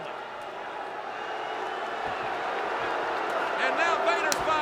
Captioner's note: crowd booing